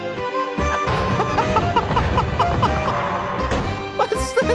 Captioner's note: laughs